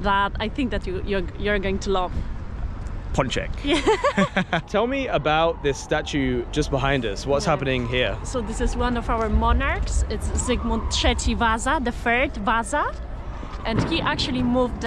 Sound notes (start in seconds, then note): 3.7 haha